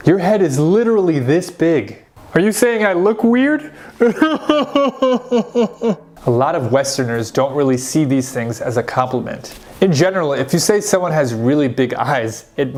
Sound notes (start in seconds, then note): 4.0 Sean cries